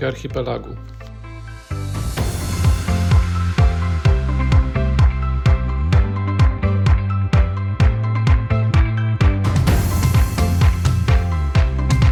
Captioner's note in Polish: Aplauz